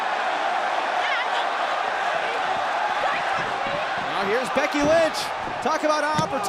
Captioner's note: cheers and applause